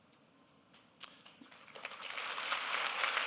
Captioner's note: applause